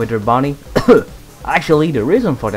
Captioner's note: cough again